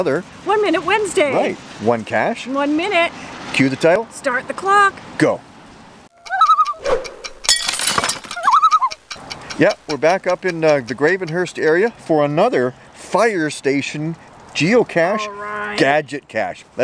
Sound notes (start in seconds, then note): 6.1 loon call